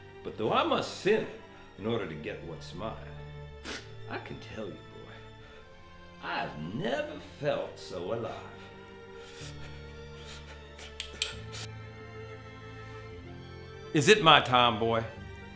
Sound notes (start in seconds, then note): 9.5 disheartening music; 10.8 pistol action clicking